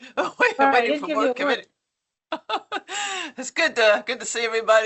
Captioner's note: chuckles